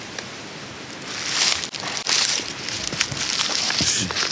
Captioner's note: leaves crunch